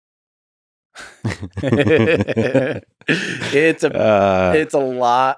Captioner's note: Lex laughs; Tim laughs